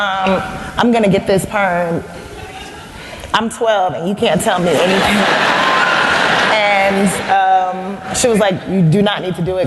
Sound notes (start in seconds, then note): 4.7 laugther